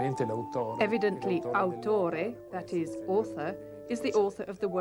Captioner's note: italian